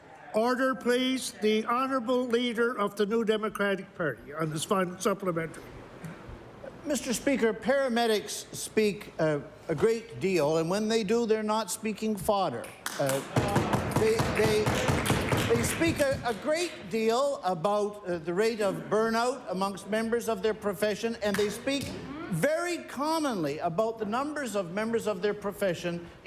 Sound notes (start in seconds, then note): 12.9 applause